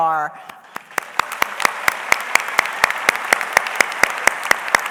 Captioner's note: audience applauds